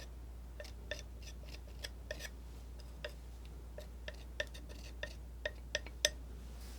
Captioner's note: tapping